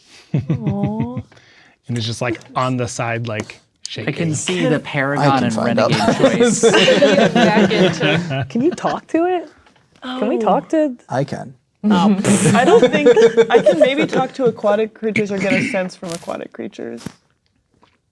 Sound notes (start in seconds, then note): 0.3 laughing; 6.7 players talking and laughing; 12.2 blows raspberry